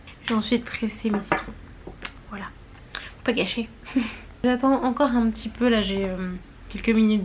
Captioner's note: laughs